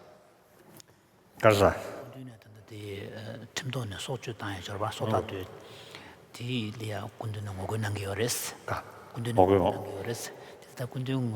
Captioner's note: foreign Language